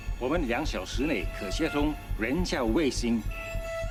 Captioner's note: speaks foreign language